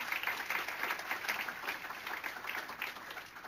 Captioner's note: applause